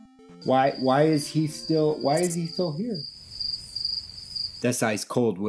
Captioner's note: crickets chirping